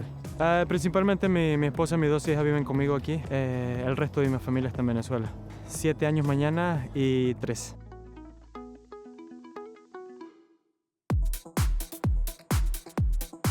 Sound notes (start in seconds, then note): 1.7 continues speaking in foreign language; 8.5 gentle music; 11.1 upbeat music